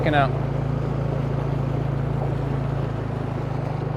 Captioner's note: engine buzzing